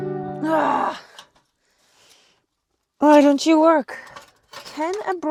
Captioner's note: person sighing